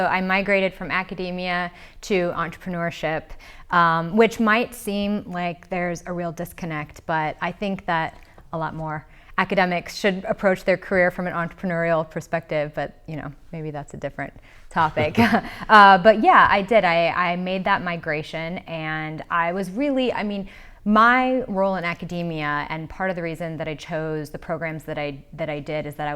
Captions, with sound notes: So, I migrated from academia to entrepreneurship, which might seem like there's a real disconnect, but I think that a lot more academics should approach their career from an entrepreneurial perspective. But, you know, maybe that's a different topic (laughs). But, yeah, I did, I made that migration and I was really, I mean, my role in academia and part of the reason that I chose the programs that I did